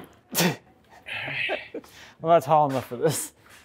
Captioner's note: laughing